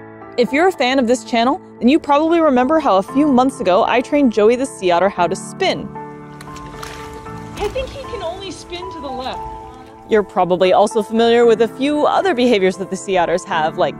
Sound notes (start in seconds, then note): 5.9 background music; 6.1 water splashing sounds